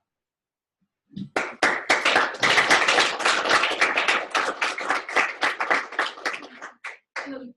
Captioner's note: applause